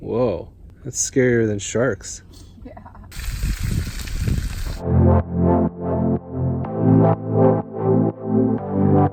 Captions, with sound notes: - Whoa, that's scarier than sharks. - Yeah. (laughing) (upbeat music)